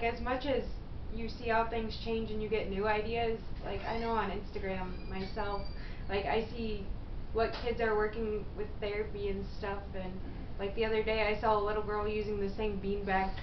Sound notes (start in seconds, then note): 4.5 squeal of door again